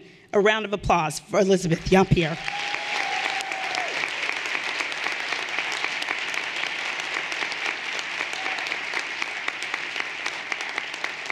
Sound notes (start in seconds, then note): 2.3 everyone applauding and cheering